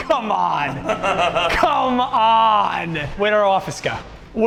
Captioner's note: laughs